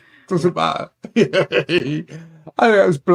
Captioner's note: laughing